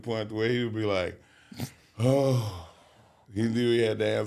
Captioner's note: sighs